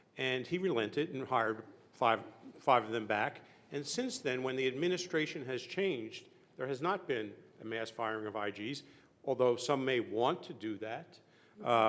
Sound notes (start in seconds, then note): none